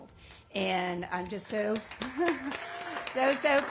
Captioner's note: applause